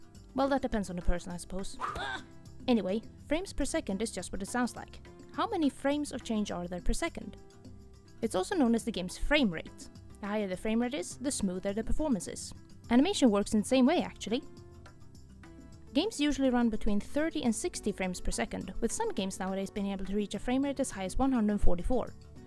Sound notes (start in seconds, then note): 1.8 smack!